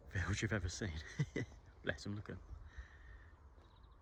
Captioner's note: laughs